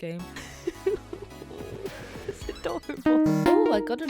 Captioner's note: laughing